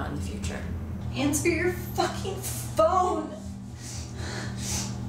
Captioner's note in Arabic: الشهيق